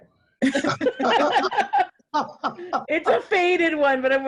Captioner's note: laughs loudly